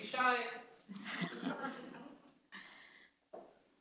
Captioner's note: laughter